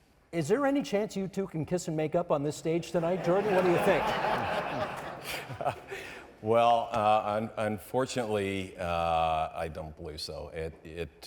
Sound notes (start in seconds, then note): 3.0 audience members laughing